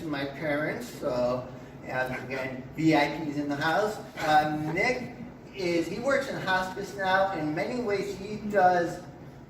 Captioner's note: laughter